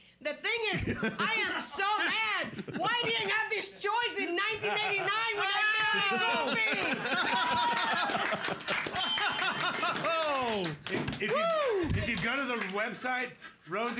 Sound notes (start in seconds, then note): 6.9 loudly laughing; 7.3 cheers and applause; 9.0 bell softly chimes